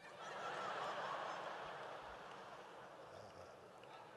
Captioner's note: audience laughs